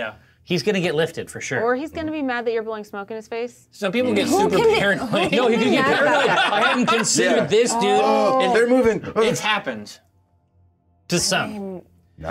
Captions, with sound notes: - Yeah, he's gonna get lifted for sure. - Or he's gonna be mad that you're blowing smoke in his face. - Some people get super paranoid. (laughs) - Who can be mad about that, right? - I haven't considered this, dude. - And they're moving. - It's happened to some.